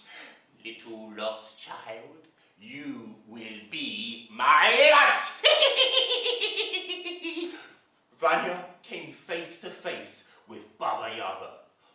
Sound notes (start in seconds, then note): 5.2 sound of evil laughing